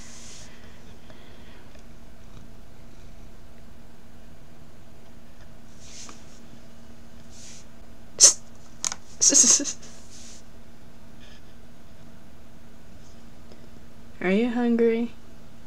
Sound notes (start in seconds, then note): 2.2 purring; 9.2 giggling